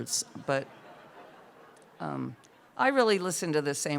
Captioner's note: laughter